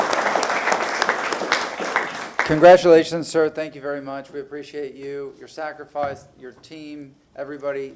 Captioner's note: applause